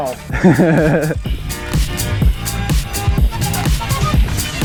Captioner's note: chuckles